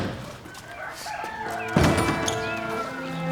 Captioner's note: Don Vincenzo's head banging on door